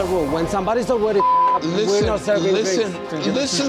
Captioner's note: beep